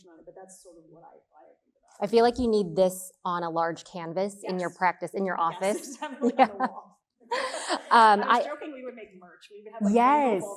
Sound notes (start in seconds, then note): 5.6 chuckles